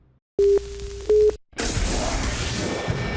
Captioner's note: beeping